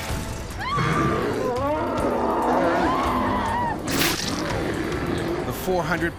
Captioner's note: screams; bear growling; voiceover